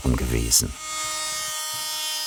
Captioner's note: whirring